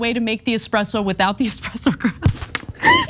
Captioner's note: laugh